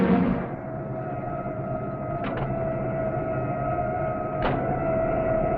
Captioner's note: distant police sirens alarming